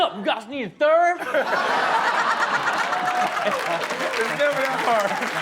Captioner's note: everybody laughs